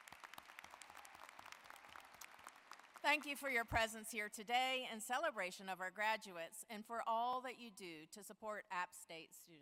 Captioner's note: applause